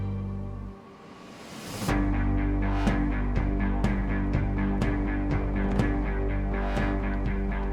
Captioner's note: suspenseful music; doors rattling